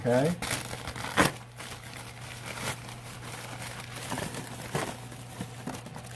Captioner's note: tearing and crinkling paper